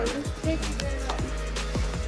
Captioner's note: laughs